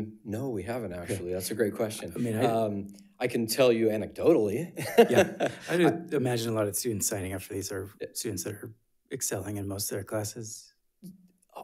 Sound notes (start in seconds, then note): 4.8 laughs